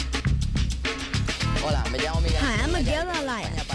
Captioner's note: speaking spanish